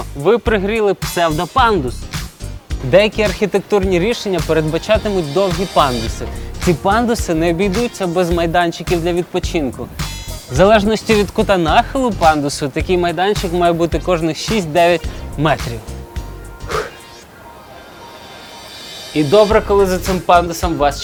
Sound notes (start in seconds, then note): 16.6 sighed heavily